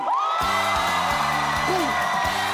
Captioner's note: audience applauding; upbeat music